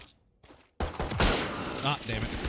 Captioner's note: loud shots